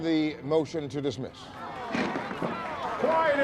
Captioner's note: applause